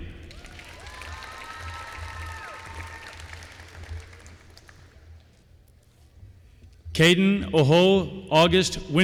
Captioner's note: applause